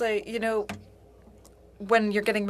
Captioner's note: speaking French